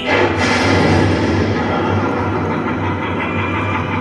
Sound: announcer speaks in French; lightning crackles

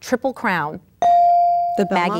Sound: ding

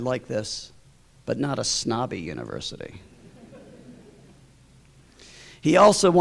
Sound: laughter

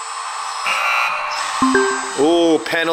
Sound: error sound; soft jingle

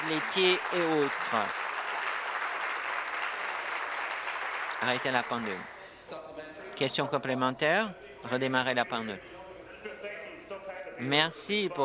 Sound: applause

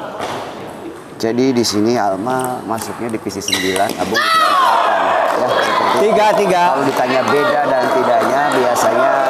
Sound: applause

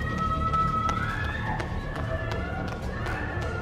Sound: distant screams

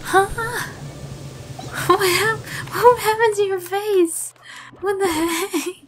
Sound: laughing; lauhgter

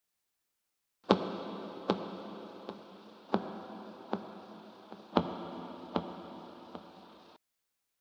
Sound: sound of deep tapping

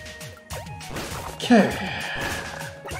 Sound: sighing

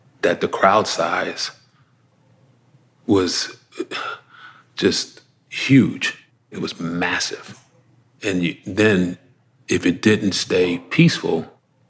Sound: exhaling

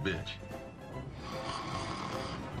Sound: fake snores again

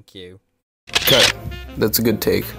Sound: camera shutter

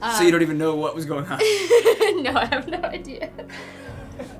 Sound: laughing; Finebros snickering

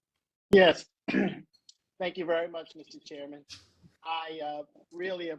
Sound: cough

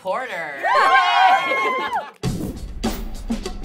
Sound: cheering; rhythmic music

